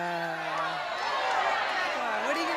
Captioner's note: audience Shouting